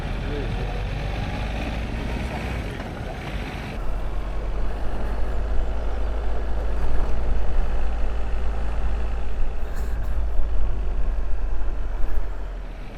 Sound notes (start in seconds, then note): 0.0 sound of engines, faint voices